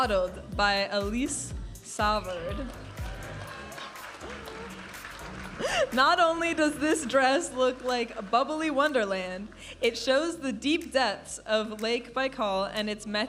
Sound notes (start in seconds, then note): 2.6 audience applauding and cheering; 4.8 vibrant music